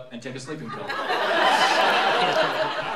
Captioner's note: laughter